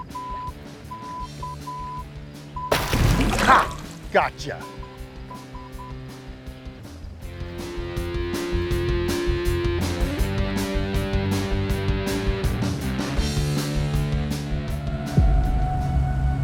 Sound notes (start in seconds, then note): 0.1 phone beeping; 5.3 phone beeping; 5.5 rock guitar music